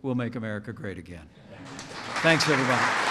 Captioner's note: applause